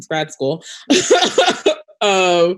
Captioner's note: laughing